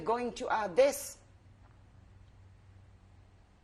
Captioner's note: pauses for 7 seconds